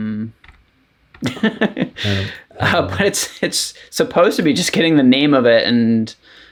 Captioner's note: laughing